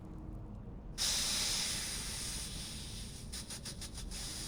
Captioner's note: slowly exhales